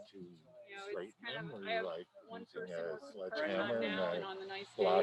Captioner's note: crowd chattering